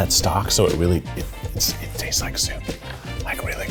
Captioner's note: whispering